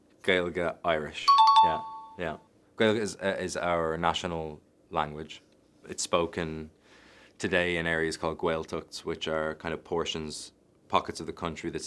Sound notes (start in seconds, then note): 1.2 chime dings